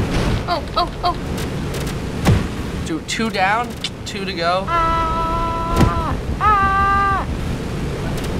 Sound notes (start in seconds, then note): 4.8 tsks